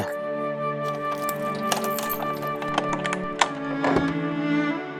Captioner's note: unlocking door